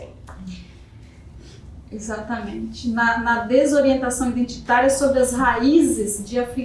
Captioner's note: speaking portuguese